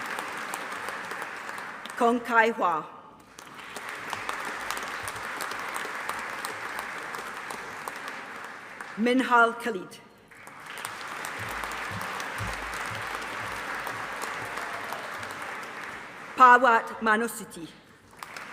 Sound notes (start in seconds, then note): 3.2 audience applauding; 10.3 audience applauding